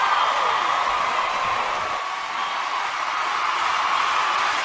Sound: crowd is cheering, extending their dream

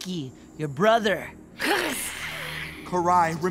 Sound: hissing

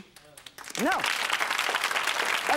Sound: audience applauding

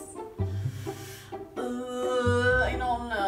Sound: groaning

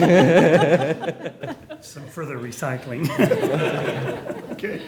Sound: laughter

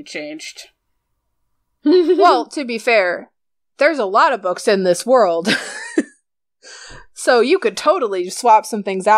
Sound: laughs; laughs

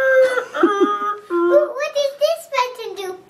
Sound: laughing

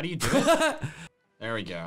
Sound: laughing

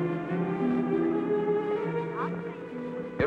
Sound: on phone

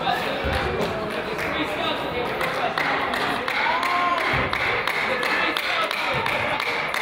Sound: crowd applauds; person claps

